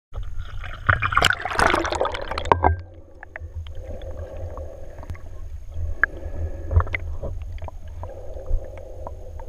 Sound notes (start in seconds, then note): 0.0 bubbles; 3.0 breathing through machine